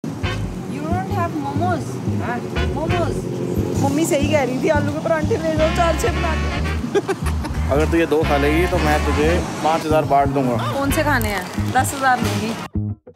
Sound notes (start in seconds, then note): 6.7 laughing